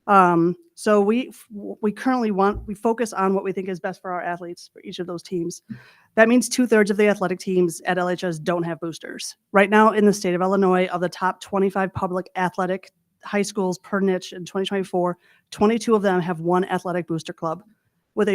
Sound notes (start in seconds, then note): none